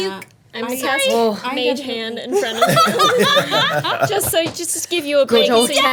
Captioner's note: everyone laughing